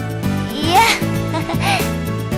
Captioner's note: sighed